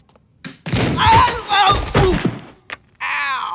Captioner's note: boy exclaiming; loud crashing